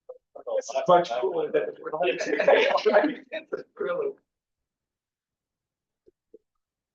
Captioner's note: people chattering indistinctly